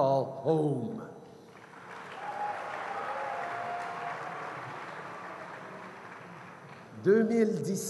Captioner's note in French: Acclamations et applaudissements